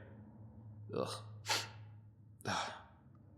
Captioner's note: sniff